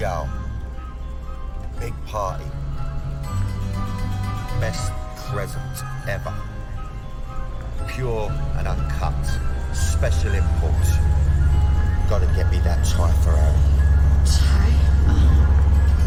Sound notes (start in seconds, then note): 4.4 echoing